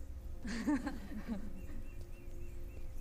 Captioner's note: laughs